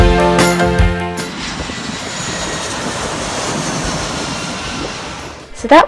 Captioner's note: the whining roar of a plane take-off